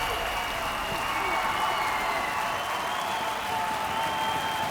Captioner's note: crowd cheering